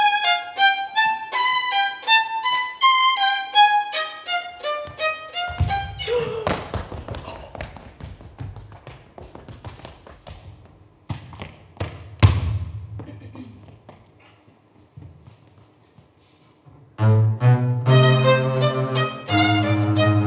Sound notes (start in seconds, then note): 6.0 woman gasps; 6.1 footsteps tapping; 12.2 foot stomps